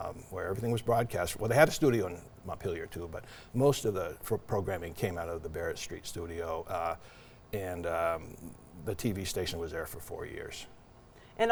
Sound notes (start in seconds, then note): none